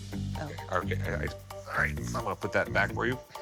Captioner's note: stammers; chuckling